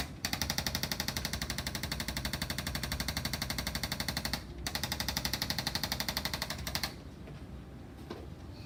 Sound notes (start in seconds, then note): 0.0 tool vibrates noisily